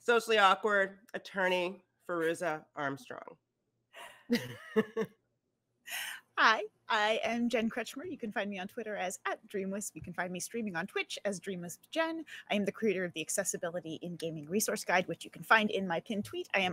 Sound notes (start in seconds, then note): 4.3 players laughing